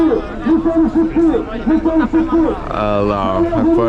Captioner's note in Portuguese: Homem falando ao microfone no fundo